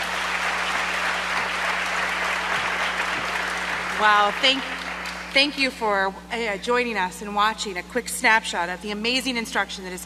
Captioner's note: applause